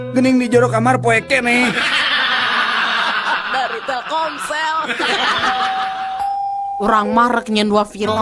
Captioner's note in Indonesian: tertawa